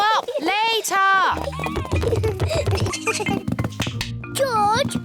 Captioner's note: both giggle